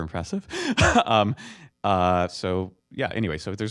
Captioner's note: laughter